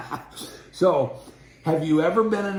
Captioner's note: laughing